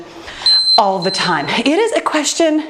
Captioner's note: timer beeping